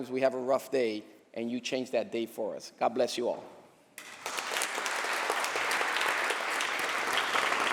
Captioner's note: applause